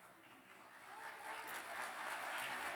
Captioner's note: applause